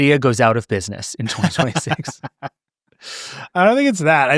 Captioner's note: laughing